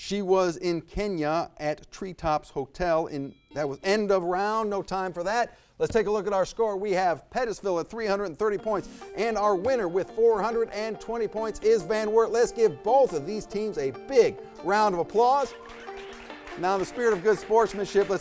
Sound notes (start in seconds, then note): 3.2 bell rings; 15.0 audience clapping